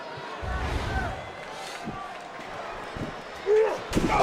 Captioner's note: graphic whooshes